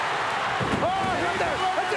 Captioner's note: audience cheering